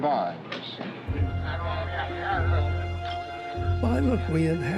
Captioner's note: talking in background